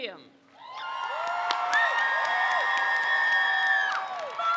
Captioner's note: crowd cheers